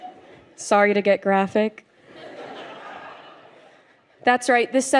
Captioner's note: laughter